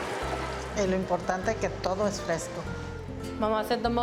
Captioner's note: speaking in Spanish